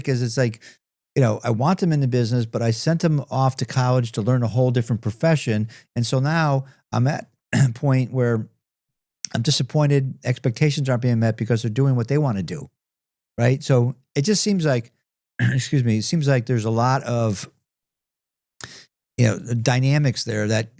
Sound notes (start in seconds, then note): 15.4 clears throat